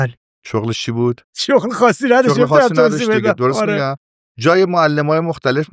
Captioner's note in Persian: خنده